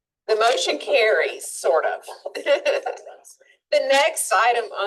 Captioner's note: laughs